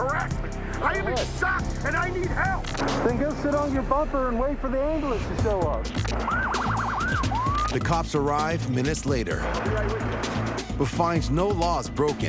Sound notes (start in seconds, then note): 6.1 sirens wailing